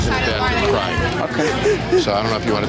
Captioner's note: crying